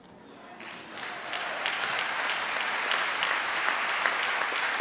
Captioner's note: audience applauds